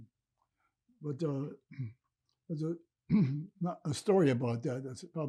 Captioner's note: clears throat